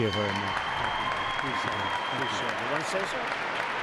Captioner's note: applause